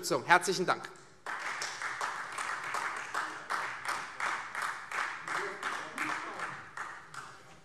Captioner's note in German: Beifall Freie Demokraten